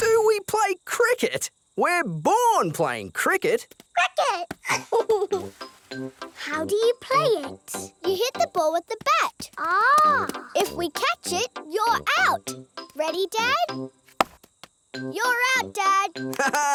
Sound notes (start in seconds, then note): 4.6 giggles